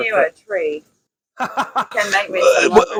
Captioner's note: laughing